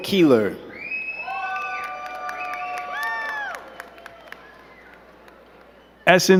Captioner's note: crowd cheering and clapping